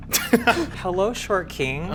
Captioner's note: snickers